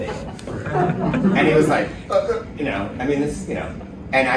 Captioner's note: stammering